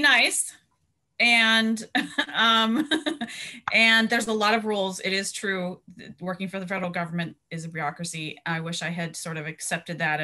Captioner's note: laughter